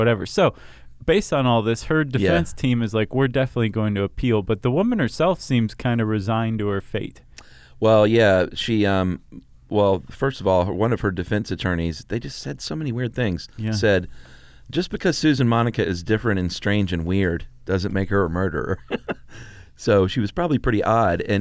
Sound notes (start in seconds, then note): 18.7 laughs